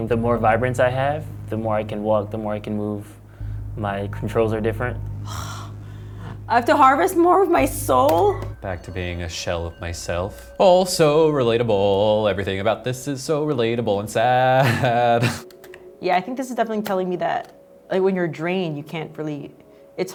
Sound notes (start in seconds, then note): 5.2 sighs